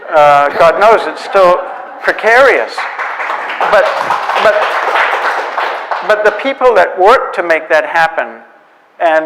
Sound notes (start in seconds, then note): 3.0 audience applauds